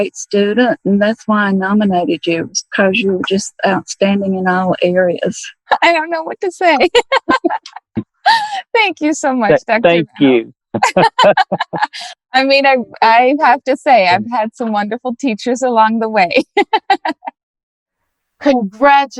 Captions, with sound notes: I think you're a great student and that's why I nominated you, it's because you were just outstanding in all areas. I don't know what to say. [laughing] - Thank you so much. - Thank you. [laughter] I mean, I have to say I've had some wonderful teachers along the way. [laughing]